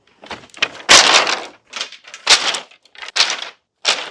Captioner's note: wood clacks